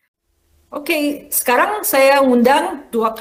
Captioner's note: non-english speech